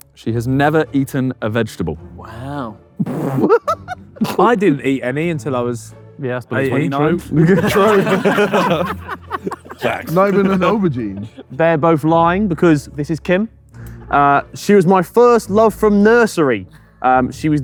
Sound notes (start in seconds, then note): 3.3 JJ laughs; 6.6 group laughing